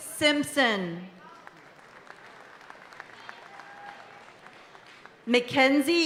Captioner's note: audience applauding and cheering continues